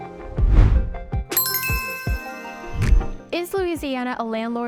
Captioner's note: soft pleasant music; bell chiming